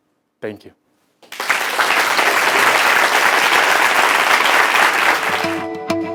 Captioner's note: applause